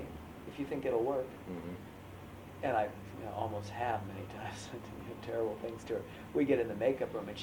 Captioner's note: laughs